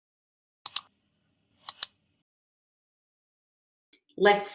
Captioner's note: clicking